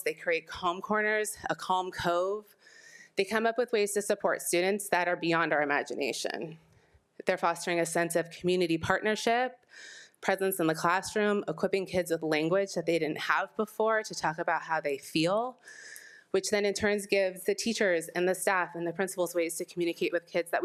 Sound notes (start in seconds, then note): none